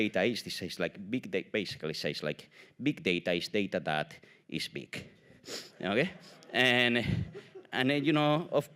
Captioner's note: audience laugh